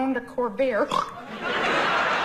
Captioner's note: snorts